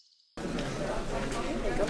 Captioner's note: commotion